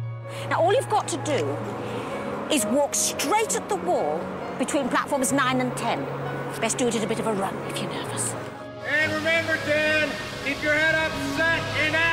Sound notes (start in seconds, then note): none